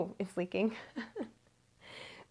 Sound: laughing

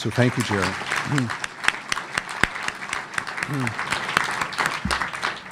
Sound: audience applauding

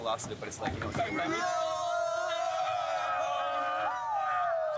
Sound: all yelling

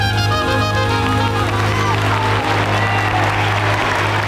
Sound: audience applauding

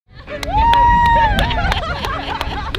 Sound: team cheering and clapping

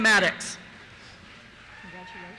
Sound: cheers

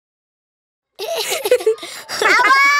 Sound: laughing

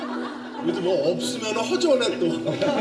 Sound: chuckling

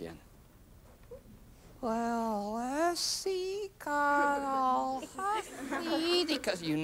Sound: speaking slowly

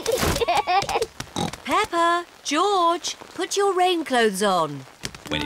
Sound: both giggling; oinks

